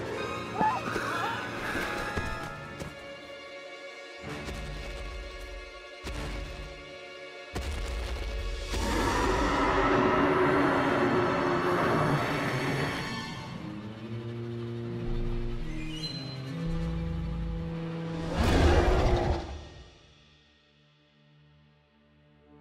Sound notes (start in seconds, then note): 0.5 screaming; 4.3 dinosaur footsteps; 8.8 roaring; 18.3 roaring